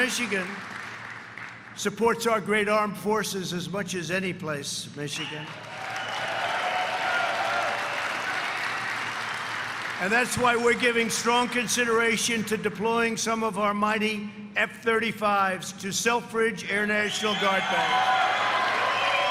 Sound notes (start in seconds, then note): 10.7 cheers and applause